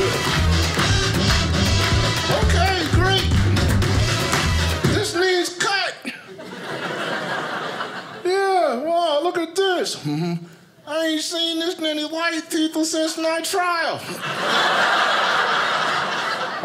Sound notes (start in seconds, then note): 6.0 audience laughing; 14.0 audience laughing